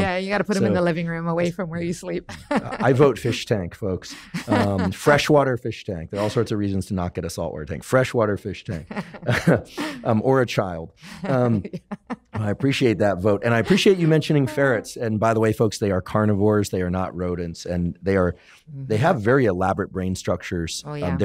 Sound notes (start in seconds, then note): 11.1 laughs